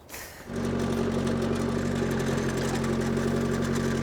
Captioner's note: engine roaring